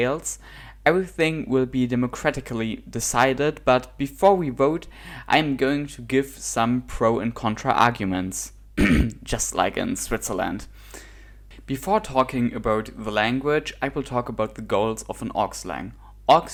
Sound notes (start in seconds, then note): 8.8 cough